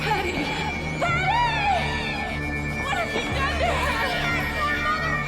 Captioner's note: screaming